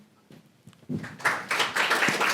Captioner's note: applause